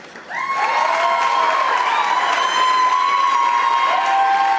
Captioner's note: audience applauding